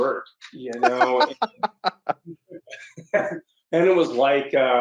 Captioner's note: laughs